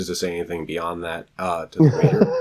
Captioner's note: laughs